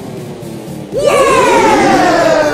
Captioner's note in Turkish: Büyük Woahlama